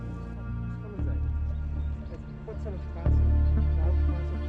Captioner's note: quiet chatter in German